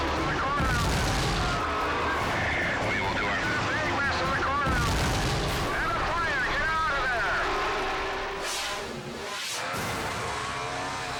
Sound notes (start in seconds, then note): 0.6 explosion booming; 4.6 explosion booming; 10.0 engines rumbling